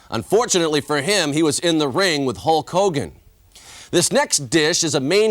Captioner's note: none